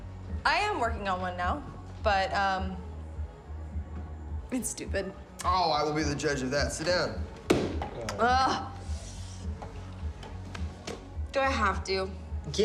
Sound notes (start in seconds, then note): 7.8 groans